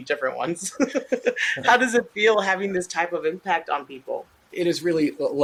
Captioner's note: laughs